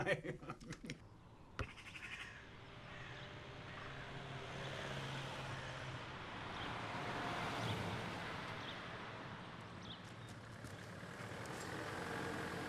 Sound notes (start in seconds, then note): 0.0 laughs; 2.5 engine rumbling; 2.8 birds chirping